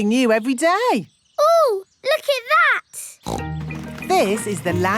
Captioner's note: snorts